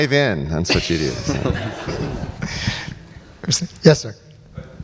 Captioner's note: audience and panelists laugh